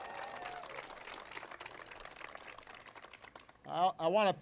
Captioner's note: applause